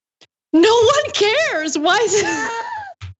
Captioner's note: laugh